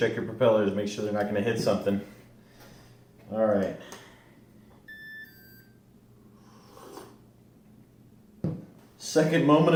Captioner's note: sip